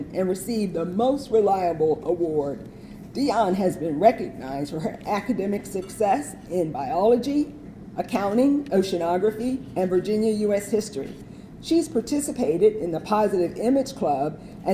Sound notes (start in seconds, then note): none